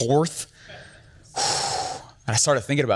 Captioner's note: sighs